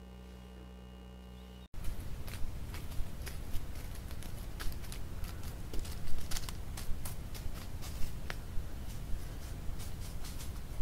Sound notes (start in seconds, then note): 2.0 leaves rustling